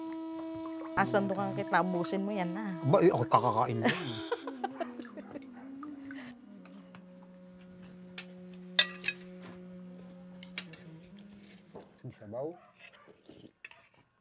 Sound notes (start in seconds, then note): 3.0 laughs